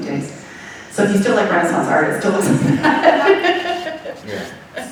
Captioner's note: laughing